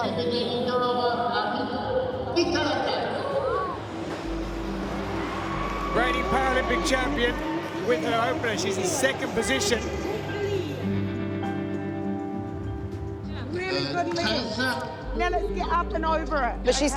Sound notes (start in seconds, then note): 4.9 crowd cheers